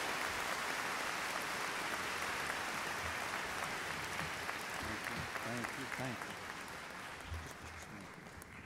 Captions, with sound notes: - [Voiceover] Thank you. - [Voiceover] Thank you.